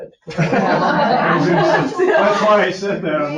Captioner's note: people laughing